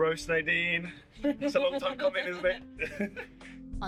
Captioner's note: laughs